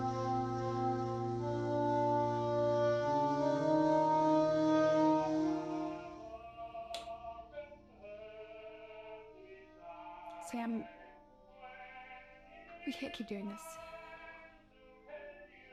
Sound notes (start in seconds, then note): 6.9 light switch clicking on